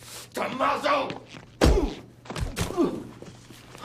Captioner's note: whack